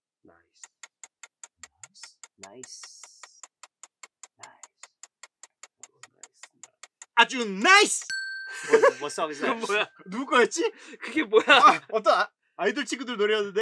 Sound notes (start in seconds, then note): 1.1 timer ticking; 8.0 bells dings